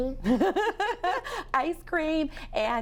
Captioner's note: laughing